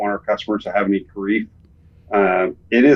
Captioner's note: all laughing